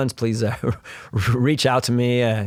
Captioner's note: chuckles